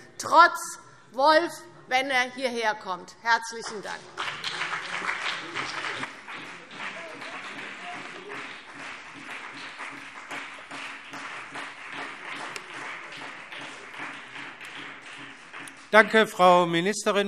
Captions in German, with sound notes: - trotz des Wolfs, sofern er hierherkommt. - Herzlichen Dank. [Beifall BÜNDNIS 90/DIE GRÜNEN und vereinzelt CDU] Danke, Frau Ministerin.